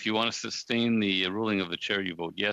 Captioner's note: speaking French